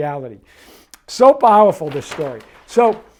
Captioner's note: paper rustles